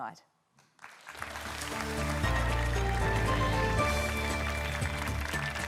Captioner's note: applause